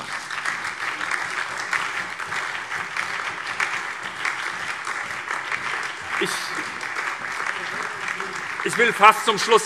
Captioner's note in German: Beifall SPD, BÜNDNIS 90/DIE GRÜNEN und DIE LINKE